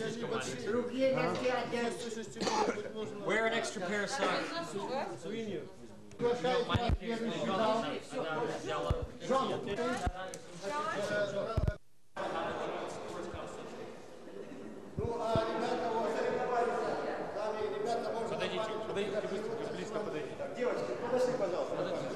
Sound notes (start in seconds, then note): 0.1 russian speech; 12.4 chatter; 19.3 russian speech